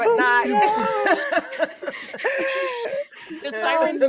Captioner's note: people laughing